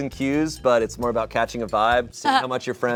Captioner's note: laughs